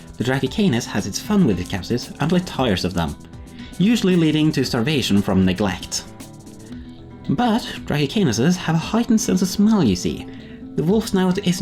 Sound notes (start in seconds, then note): none